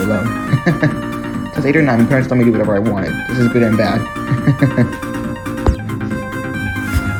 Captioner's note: laughs; laughs